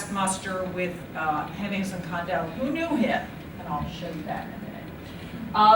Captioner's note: none